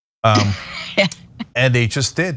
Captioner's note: laugh